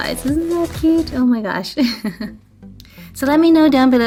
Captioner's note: laughs